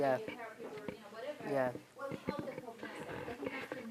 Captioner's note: talking distantly